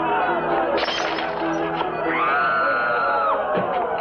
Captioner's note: screaming